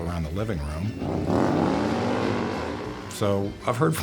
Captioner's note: motorcycle revs